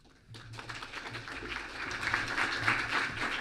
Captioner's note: clapping